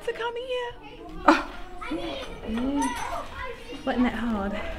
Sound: chuckles

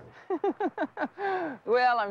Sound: laughs

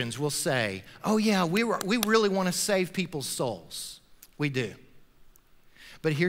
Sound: claps

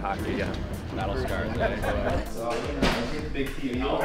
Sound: laughs

